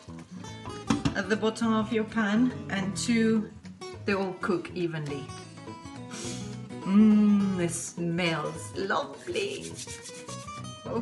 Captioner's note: sniffs